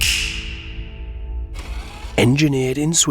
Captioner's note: finger snapping; machine whirring